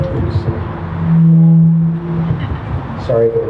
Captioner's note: adjusting microphone noises